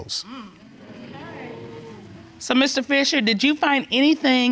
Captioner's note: crowd gasping